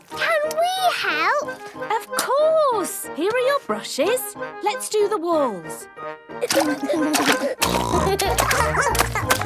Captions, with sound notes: - Can we help? - Of course! Here are your brushes. Let's do the walls. (giggling) (snorting) (barking)